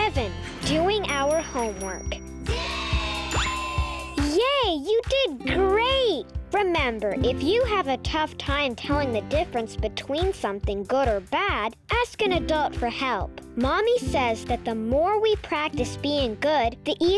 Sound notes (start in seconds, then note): 3.2 bell dinging; 5.9 lively music